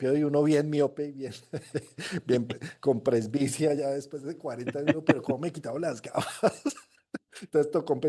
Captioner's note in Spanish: risas